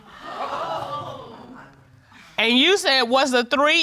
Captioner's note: audience gasps